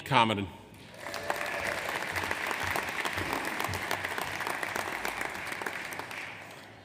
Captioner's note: audience applauds; audience cheers